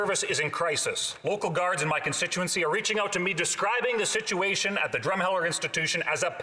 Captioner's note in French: voix de l'interprète